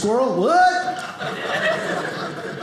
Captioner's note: audience laughing